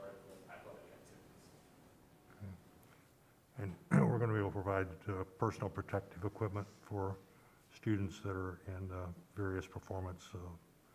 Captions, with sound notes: extracurricular or athletic activities. - And (clears throat) we're gonna be able provide personal protective equipment for students that are in various performance so.